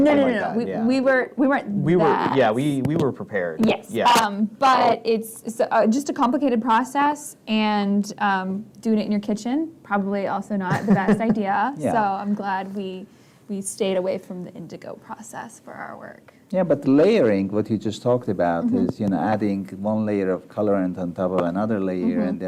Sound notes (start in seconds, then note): 11.6 laughs